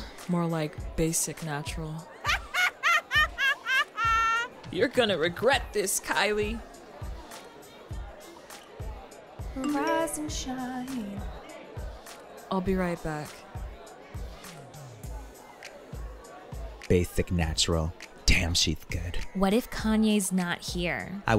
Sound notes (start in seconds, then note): 2.2 Kendall laughs hysterically; 9.6 phone beeps